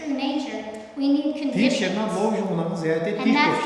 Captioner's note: speaking tibetan